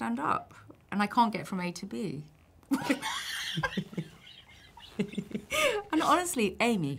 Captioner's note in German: lachen